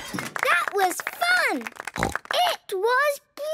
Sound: applause

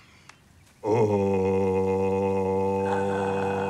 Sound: low-pitching vocalizing; vocalizing

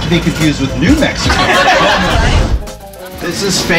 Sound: riders laugh

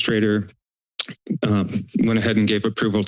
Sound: clicks tongue

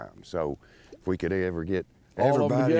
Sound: laughing

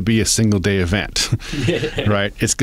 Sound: laughter

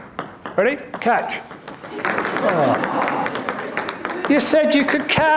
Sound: audience laughing

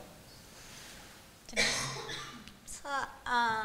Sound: voiceover

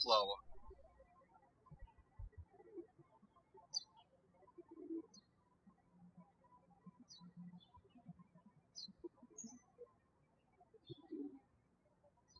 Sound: birds chirping

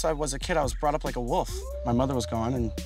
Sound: wolf howling

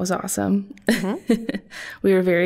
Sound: chuckling

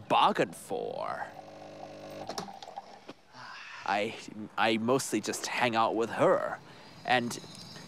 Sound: machine hums

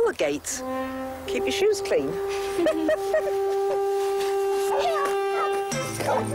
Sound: laughs

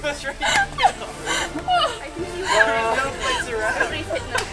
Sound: laughter

